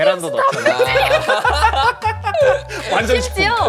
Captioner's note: hahaha